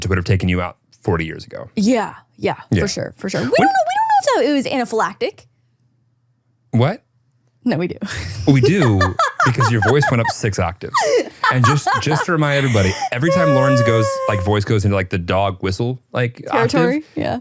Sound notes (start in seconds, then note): 8.2 laughs